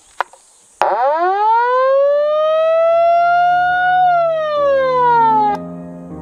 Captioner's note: A siren